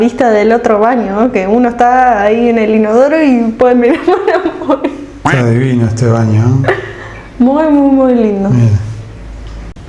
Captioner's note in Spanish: risas